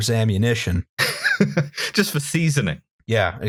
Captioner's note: laughter